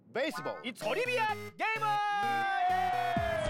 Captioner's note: speaking Japanese